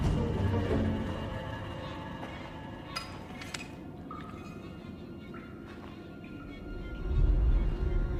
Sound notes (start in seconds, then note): 2.8 metal clangs